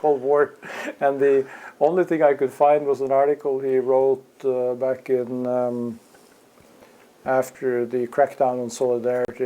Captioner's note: laugh